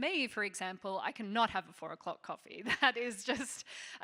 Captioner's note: chuckling